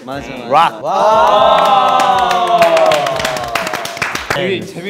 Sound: group applauds

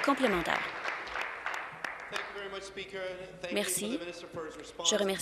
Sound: applause

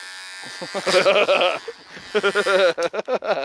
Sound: laughing

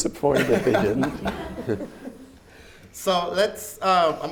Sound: everyone laughs

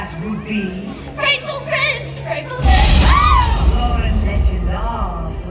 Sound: screams

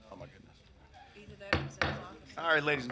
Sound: gavel taps

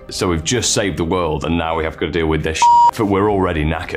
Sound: beep

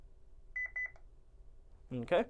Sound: keypad beeps

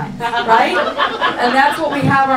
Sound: audience laughs

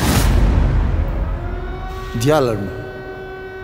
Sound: siren

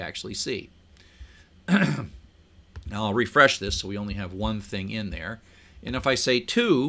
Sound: cough

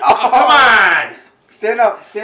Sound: laughs; screams

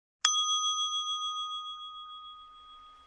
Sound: bell dings

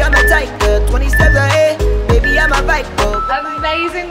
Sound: timer beeps

